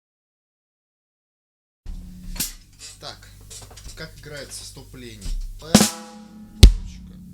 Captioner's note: Russian language